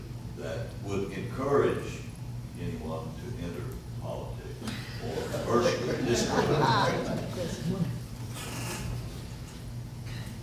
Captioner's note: laughter